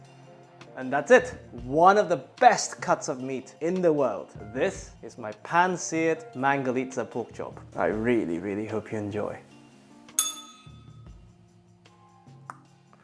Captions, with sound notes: And that's it. One of the best cuts of meat in the world. This is my pan-seared Mangalitsa pork chop. I really, really hope you enjoy. [bell rings]